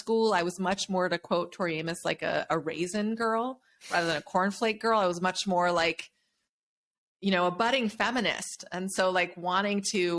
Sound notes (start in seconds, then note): none